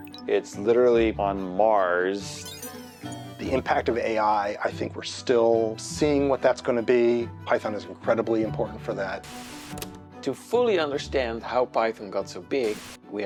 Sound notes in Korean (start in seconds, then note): 2.3 로봇 소리; 9.2 지직 소리; 12.6 지직 소리